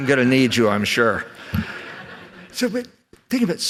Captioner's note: laughter